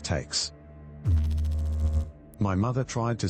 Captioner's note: electrical noise